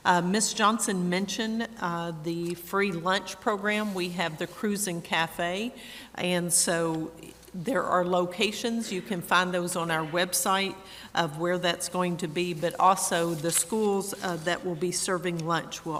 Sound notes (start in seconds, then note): none